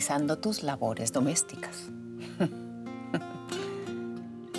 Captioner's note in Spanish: Ríe